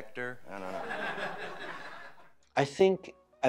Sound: audience laughing

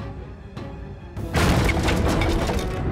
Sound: thudding

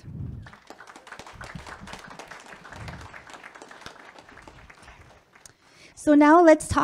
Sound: public clapping

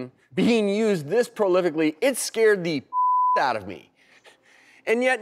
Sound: beep

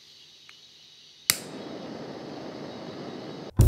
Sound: blowtorch igniting; blowtorch ignited

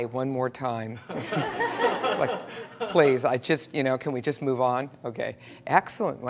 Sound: laugh

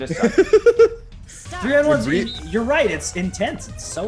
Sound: laugh

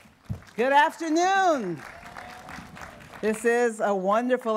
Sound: cheering

